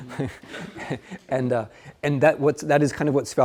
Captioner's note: students laugh; laughs